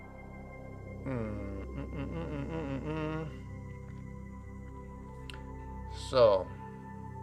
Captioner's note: narrator hums